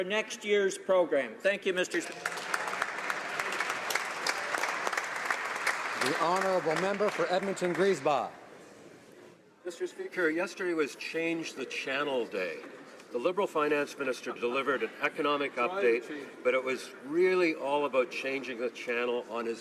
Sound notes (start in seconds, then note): 5.9 applause